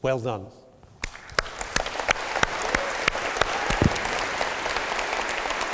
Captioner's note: applause